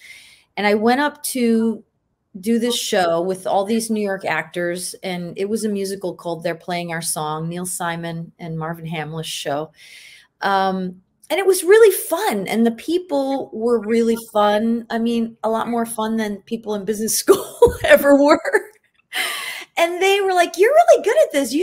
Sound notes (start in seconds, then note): 18.6 laughing